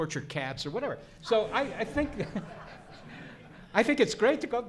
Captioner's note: audience laughs